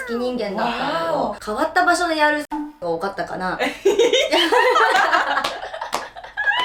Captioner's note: laughs